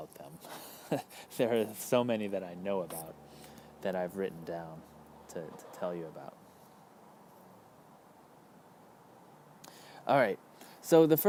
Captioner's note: laughs